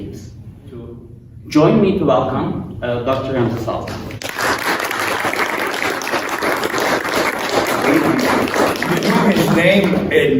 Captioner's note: applause